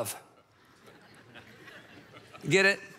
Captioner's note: audience laughs